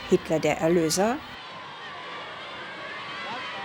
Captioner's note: cheering